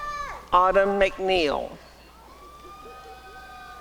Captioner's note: applause and cheering